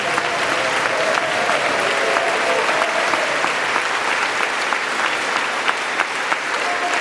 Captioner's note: applause